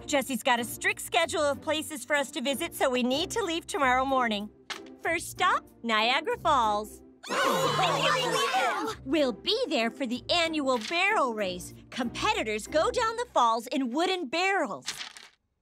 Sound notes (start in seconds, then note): 7.2 excited chatter